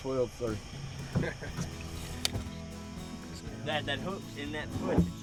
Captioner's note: hearty laughing